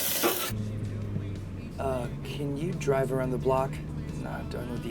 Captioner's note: radio playing